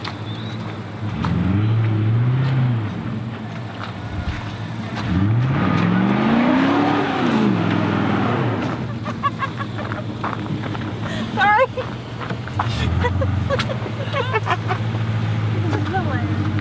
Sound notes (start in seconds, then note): 5.7 engine revving; 5.7 laughing